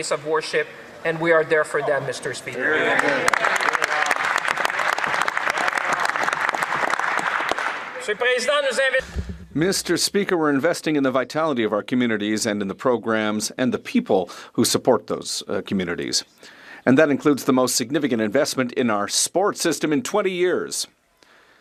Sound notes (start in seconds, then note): 8.2 some Applause